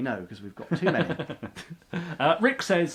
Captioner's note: laughs